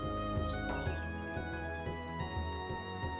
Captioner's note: birds chirping